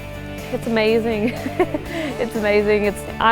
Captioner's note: laughs